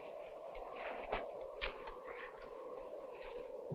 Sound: wind howling

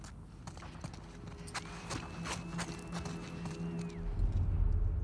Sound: alert whistle!!

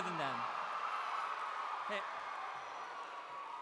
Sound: cheering

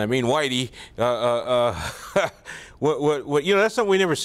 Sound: laughs

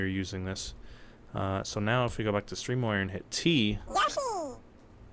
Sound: Yoshi noise

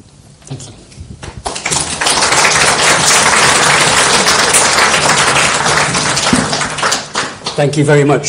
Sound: clapping

